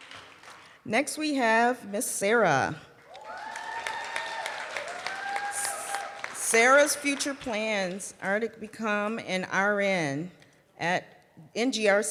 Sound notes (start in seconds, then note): 0.0 applause; 4.7 cheering and applause